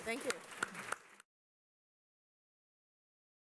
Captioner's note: applause